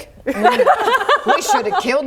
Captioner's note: laughs